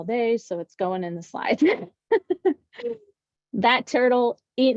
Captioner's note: laughs